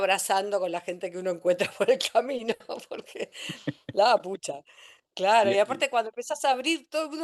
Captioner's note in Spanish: risas